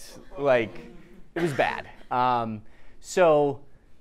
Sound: audience chuckling

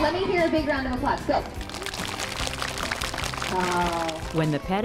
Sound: applause

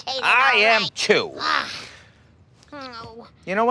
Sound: groans

